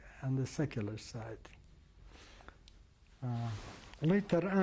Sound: pauses for 3 seconds

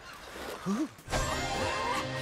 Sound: River shivers

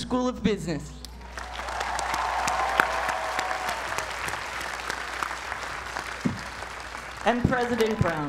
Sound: applause

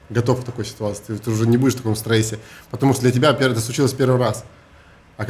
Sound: none

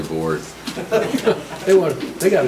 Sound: group laughs

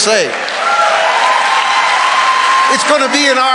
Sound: congregation cheering

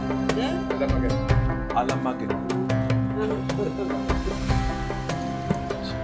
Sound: traditional music continues; speaking in foreign language

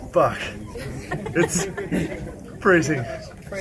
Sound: laughs

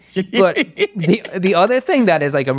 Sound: laughing

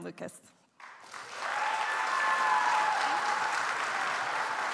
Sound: audience applauds

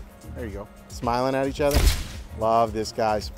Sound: camera shutter snaps

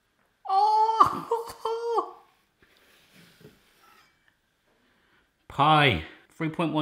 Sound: laughing

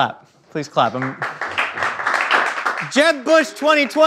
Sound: clapping

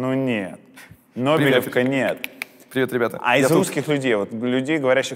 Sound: clicks with tongue

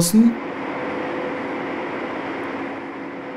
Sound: machine noise

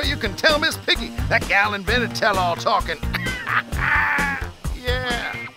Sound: laughs

